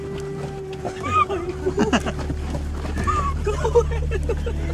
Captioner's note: laughter